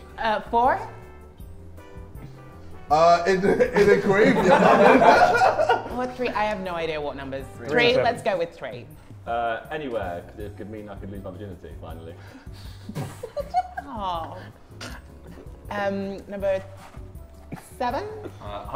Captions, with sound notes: - Four. - In a graveyard. (Sidemen laugh) - Or three? I have no idea what number's... Three, let's go with three. - Anywhere. It could mean I could leave virginity finally. - Aww. - Number seven.